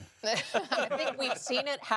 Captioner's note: laughing